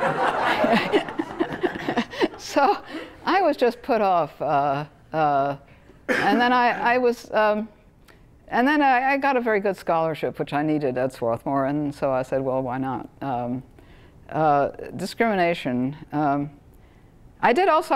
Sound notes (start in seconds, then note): 0.0 laughter; 0.0 laugh